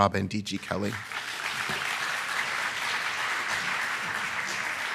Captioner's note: attendees applauding